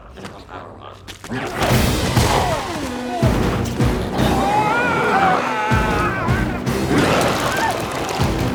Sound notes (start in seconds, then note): 1.4 intense music; 4.1 biker screams